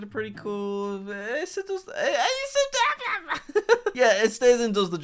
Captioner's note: squeals and laughs